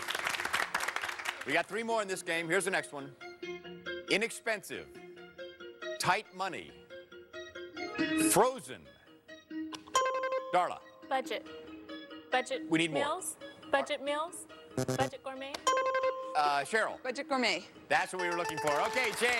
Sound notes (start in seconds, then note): 0.0 applause; 10.0 buzzer rings; 14.8 bell buzzes; 14.8 buzzer rings